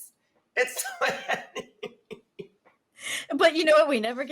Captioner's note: laughs